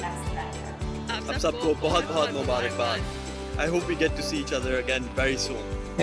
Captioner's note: non-english speech